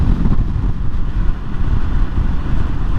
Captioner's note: all the sound of wind